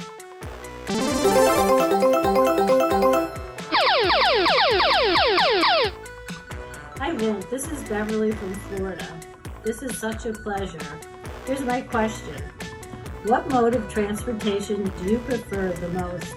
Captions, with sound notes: (upbeat electronic music) (electronic beeping) - Hi Vint, this is Beverly from Florida. This is such a pleasure. Here's my question, what mode of transportation do you prefer the most?